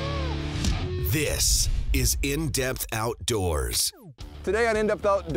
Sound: voiceover

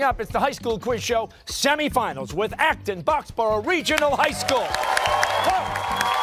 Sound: cheers and applause

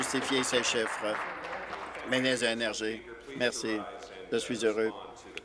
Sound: applause

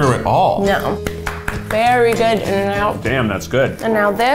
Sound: claps

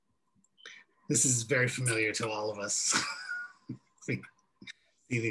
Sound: laughs

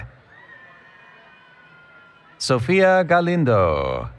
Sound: cheering

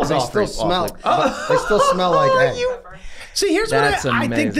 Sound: Glenn laughing

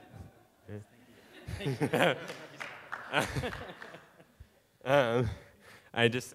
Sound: audience laughing and clapping

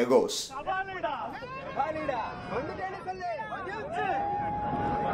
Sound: People screaming Kabali Da, Neruppuda, thalaivar da..etc da!

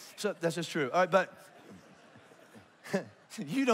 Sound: congregation laughs; laughs

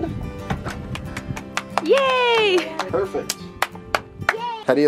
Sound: applause

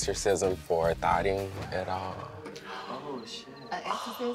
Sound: crickets

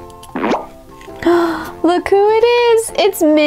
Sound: gasps

